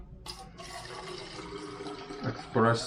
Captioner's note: espresso splashes